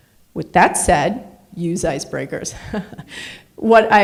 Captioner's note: laughs